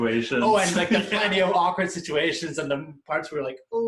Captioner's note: laughs